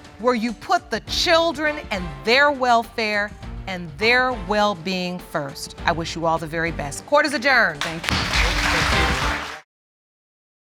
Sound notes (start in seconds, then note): 7.8 audience clapping